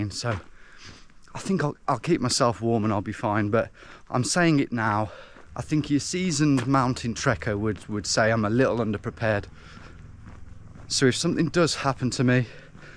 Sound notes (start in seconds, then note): none